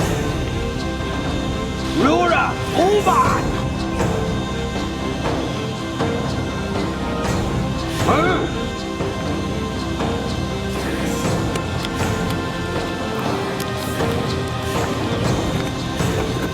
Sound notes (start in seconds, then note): 4.1 dramatic music continues; 8.1 Og grunting; 12.8 dramatic music continues